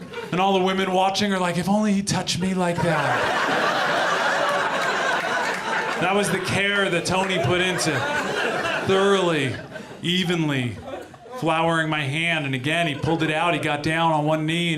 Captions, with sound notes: and all the women watching are like, "If only he touched me like that." [AUDIENCE LAUGHS] That was the care that Tony put into it. Thoroughly, evenly flowering my hand. And again he pulled it out, he got down on one knee